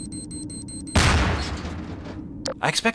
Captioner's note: beeping accelerates; explosion